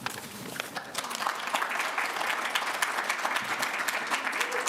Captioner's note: applause